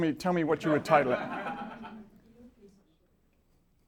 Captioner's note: laughter